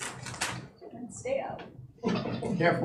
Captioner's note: loud clatter